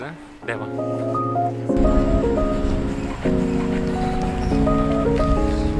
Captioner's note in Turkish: otobüs sesi